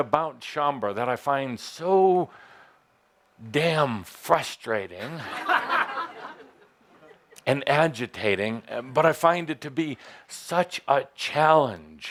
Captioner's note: laughter